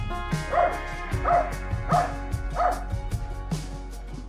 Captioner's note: barks